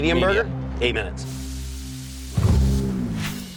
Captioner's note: sizzling